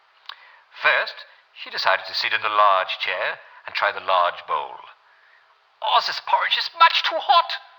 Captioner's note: German accent